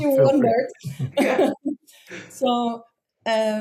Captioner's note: all chuckle